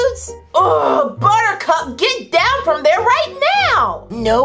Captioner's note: groans